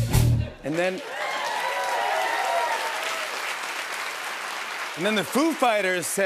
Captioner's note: cheers and applause